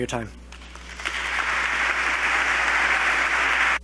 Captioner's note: applause